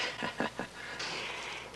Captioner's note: chuckles